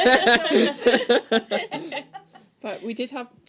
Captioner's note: laughter